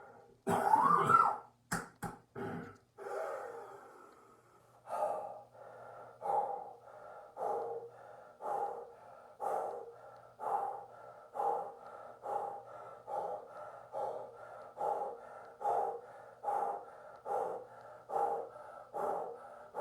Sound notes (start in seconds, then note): 0.4 coughs; 4.0 deep breaths